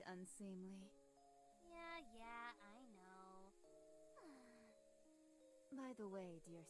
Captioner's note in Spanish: suspiros